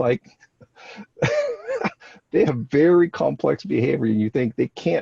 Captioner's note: laughs